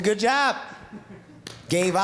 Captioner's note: clapping